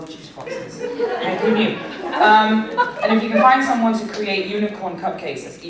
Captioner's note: laughter